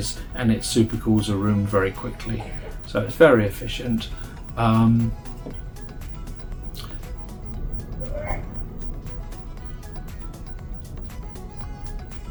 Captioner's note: coughing